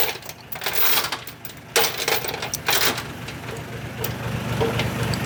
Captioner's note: truck Engine Revs